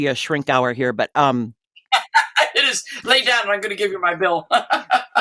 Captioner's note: laughter